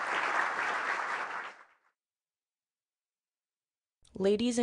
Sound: applause

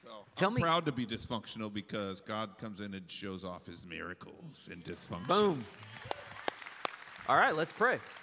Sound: applause

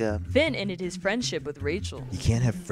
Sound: voiceover

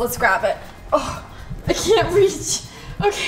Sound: gasps

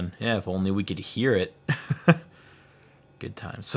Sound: laughs

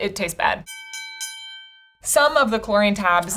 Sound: bell dings

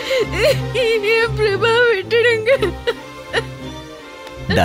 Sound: crying

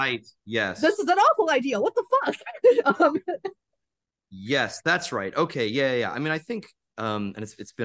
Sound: laughs

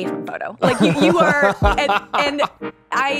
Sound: laughter

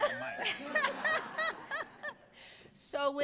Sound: audience laughs

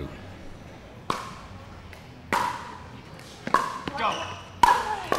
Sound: ball bouncing

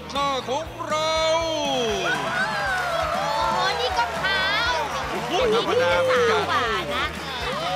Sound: cheering

